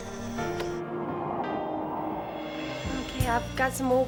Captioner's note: wind blowing